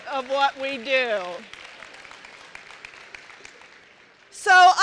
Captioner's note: applause